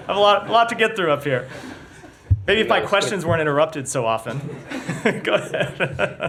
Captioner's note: laughter